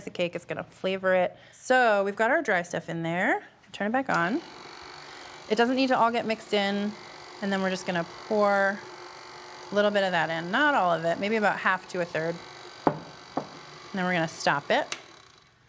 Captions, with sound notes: it's going to flavor it. So we've got our dry stuff in there. Turn back on. (mixer whirring) It doesn't need to all get mixed in. And then we're just going to pour a little bit of that in. Not all of it, maybe about half to a third. Then we're going to stop it. (mixer stops)